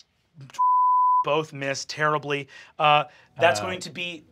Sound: beep

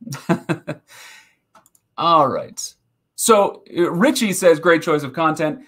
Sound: laughing

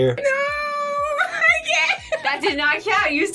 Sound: laughs

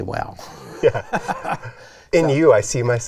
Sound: both laugh

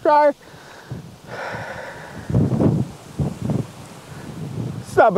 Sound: soft wind

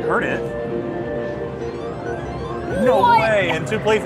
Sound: machine bleeps

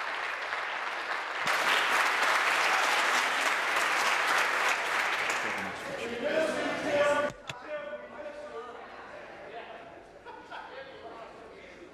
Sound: applause

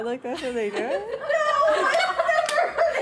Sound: all laughing

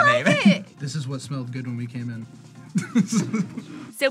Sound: laughs

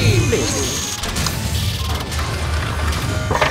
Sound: lasers firing; robot suits clanging

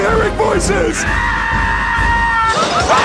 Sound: both screaming; screams

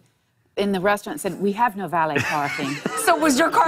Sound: laughter

